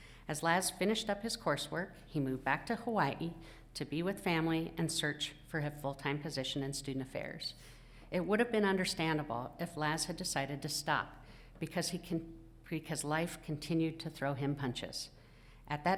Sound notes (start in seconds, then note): none